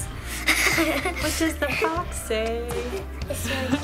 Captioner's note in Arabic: يضحك; يضحك